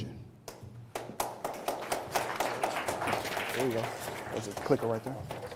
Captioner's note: applause